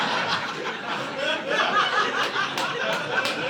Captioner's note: audience laughing